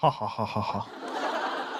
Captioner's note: laughing